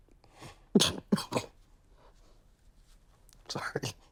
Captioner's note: sobbing